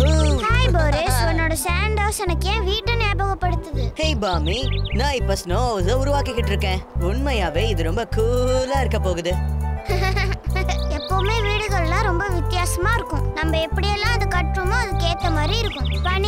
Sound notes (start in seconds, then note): 9.8 Boomi LAUGHING